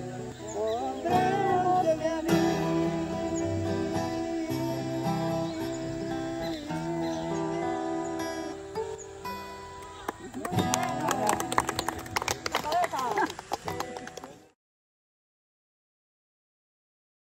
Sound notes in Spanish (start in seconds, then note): 9.7 aplausos